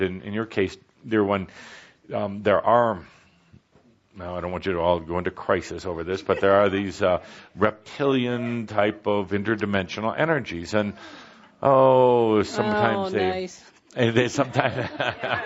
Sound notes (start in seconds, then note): 10.5 someone in audiences says “Oh”